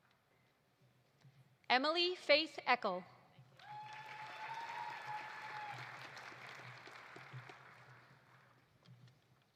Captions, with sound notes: Emily Faith Eckel. (audience applauding) (audience cheering)